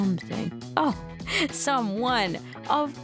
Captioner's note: laughs